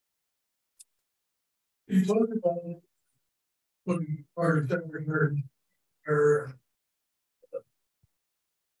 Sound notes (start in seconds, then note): 4.6 speaking faintly